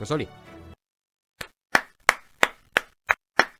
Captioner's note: clapping Sound Effect Number 1; clapping Sound Effect Number 2